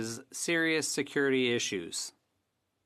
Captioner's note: speaking French